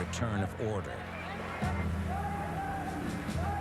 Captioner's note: shouting